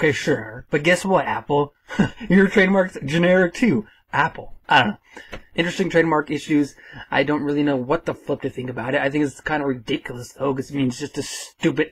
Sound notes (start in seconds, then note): 2.1 haha